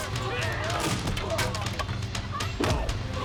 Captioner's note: thunk